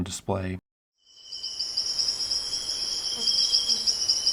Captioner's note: ambient jungle sounds; fly buzzing